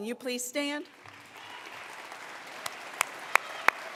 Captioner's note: applause